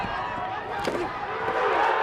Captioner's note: grunting; crowd cheering